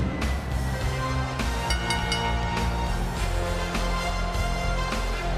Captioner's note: bell ringing